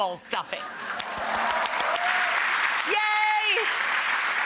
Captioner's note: audience applauding